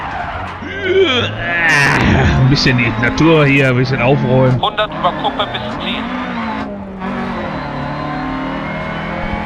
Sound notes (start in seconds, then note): 0.6 fakes sound of throwing up